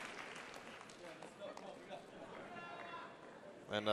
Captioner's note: cheers and applause; speaking spanish